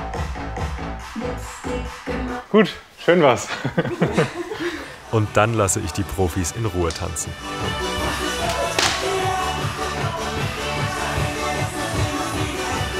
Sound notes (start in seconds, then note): 3.4 laughter; 8.0 energetic music